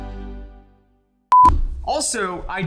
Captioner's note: beep